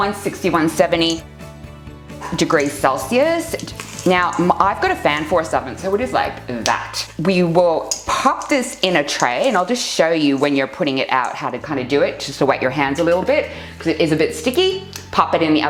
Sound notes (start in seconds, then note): 7.9 snaps fingers